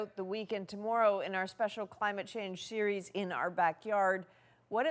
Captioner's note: none